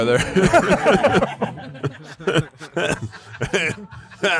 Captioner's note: all laughing